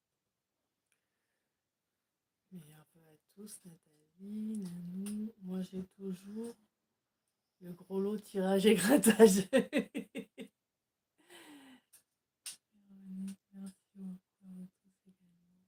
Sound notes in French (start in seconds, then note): 12.1 rires